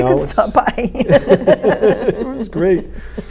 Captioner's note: laughing